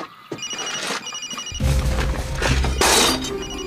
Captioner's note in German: Handy klingelt